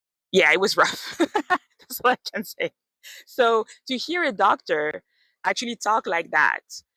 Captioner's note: laughs